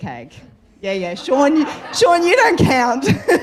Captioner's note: audience laughter erupts